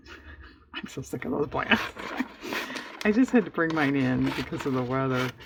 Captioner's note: laughs